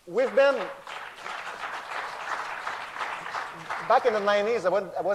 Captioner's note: applause